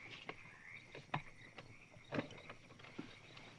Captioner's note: crickets chirping